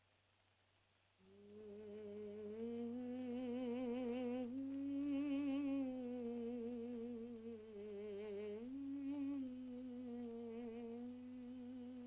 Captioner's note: Loana hums